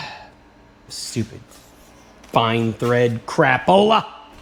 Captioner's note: sigh